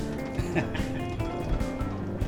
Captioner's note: laughs